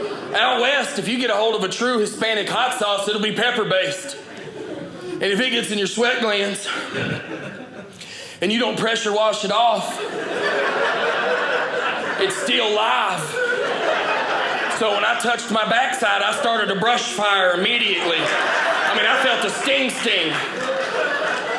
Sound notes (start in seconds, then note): 9.7 audience laughing; 13.6 audience laughing